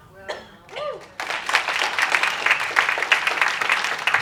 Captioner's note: applause